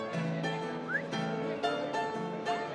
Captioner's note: whistles